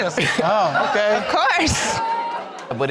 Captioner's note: audience laughing